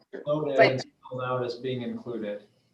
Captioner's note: speaking faintly